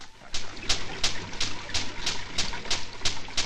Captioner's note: rattling and bubbling